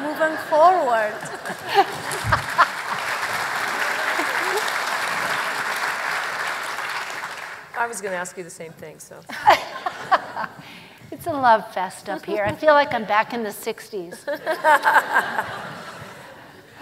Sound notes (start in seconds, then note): 6.0 laughter; 6.2 applause; 12.4 laughter